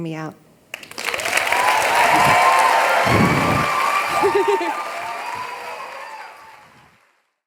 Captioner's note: applause